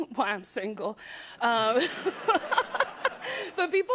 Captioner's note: laughter